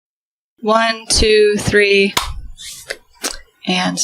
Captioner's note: clap